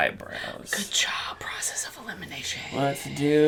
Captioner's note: whispers